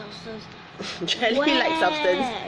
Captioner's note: laughs